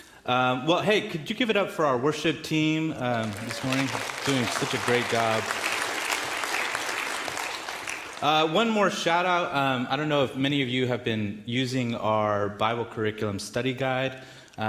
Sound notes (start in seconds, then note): 5.7 audience clapping in the background